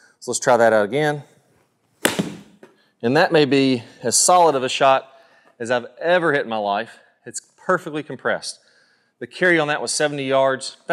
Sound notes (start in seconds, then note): 2.0 golf ball cracks